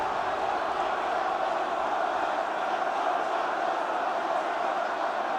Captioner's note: chants "One more time"